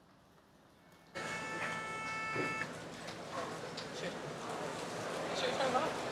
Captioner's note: chatter